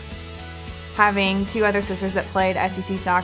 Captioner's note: voiceover